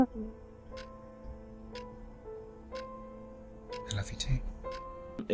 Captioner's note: clock ticking